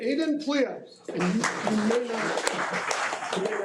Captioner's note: audience applauding